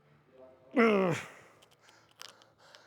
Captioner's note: grunting